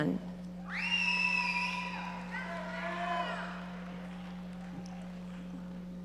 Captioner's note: audience members cheering